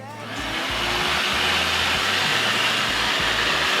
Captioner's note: vacuum noise